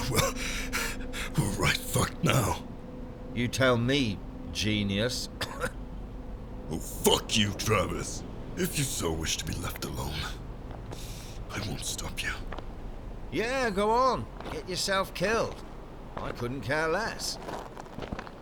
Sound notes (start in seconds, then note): 5.2 coughs